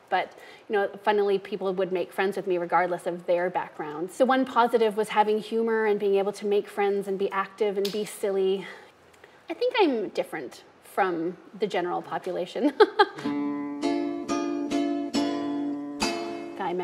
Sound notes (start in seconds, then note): 12.8 laughing; 13.1 light string music